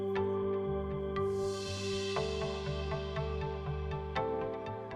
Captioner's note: magic chimes